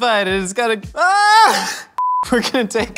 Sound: screams

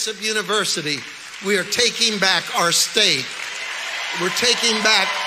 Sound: audience applauds

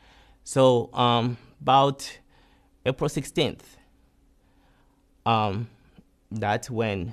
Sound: pauses for 3 seconds

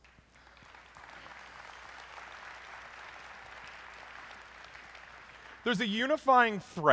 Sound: applause

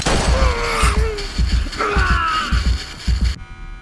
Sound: gunshots; dying screams

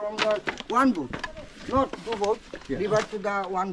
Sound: speaking local language

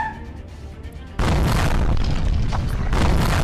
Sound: boom!; boom!!

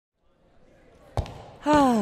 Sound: footsteps; people chattering

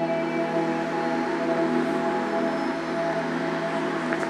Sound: engines humming

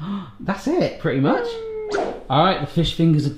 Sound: gasps

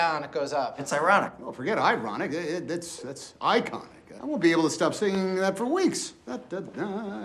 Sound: walt humming

